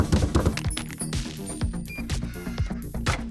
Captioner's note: fingers snap; hands thudding; paper scrunches; coffee machine beeps; filter thuds